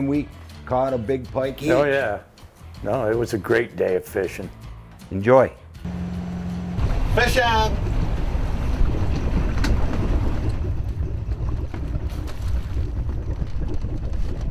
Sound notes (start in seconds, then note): 6.2 engine hums; 6.8 water splashes